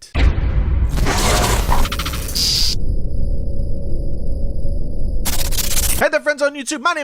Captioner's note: horror sound